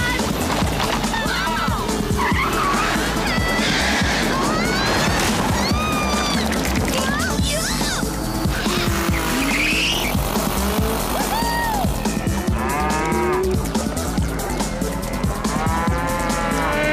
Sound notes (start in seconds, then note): 11.2 screaming